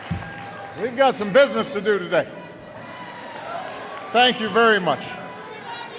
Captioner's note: applause